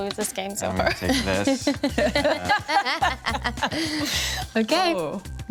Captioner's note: everyone chuckles